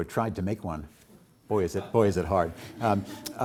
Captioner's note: audience chuckles